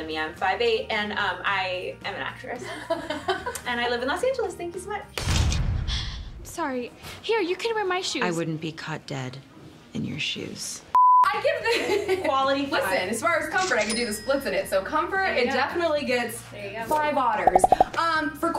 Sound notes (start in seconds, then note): 10.9 screen beep